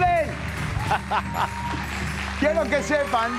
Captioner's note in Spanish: Raúl ríe